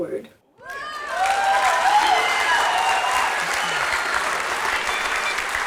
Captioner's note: crowd cheers and claps